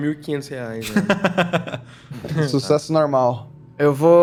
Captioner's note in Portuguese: risos